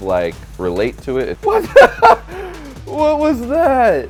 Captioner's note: laughs